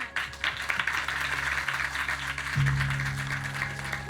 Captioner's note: clapping